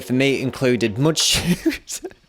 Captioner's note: laugh